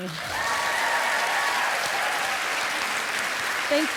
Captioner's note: applause